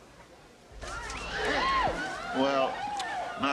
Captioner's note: screaming